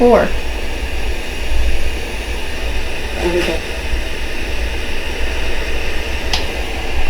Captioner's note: static; clicking